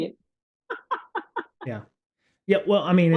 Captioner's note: laughing